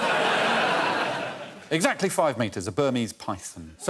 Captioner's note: laughter